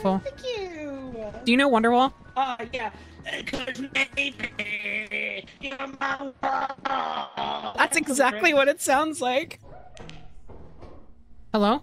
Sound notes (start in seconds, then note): 3.0 voice becomes scratchy and glitchy